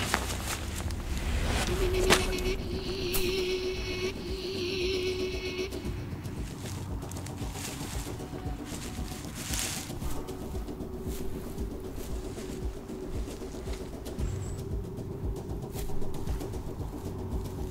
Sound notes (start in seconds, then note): 3.4 rustling; 5.4 music intensifies; 6.9 footsteps rustling